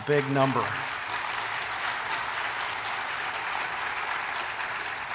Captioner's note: audience applauding